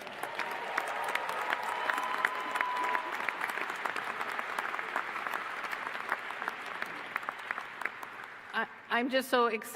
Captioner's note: applause